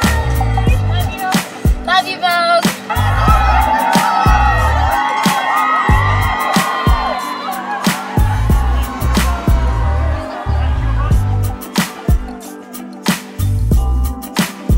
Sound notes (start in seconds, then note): 3.1 crowd cheering; 11.5 bright upbeat music